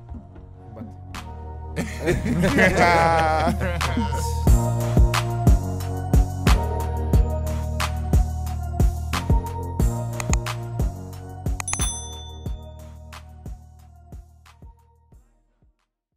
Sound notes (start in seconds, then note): 1.8 laughing; 4.8 upbeat music